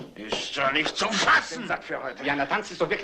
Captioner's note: groaning, muttering